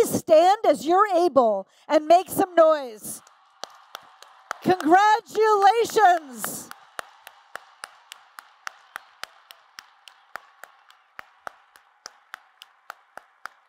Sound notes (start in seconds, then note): 4.6 applause